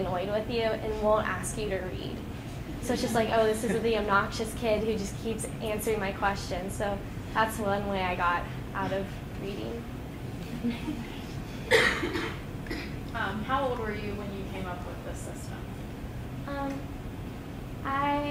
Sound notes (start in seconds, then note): 2.7 students chuckling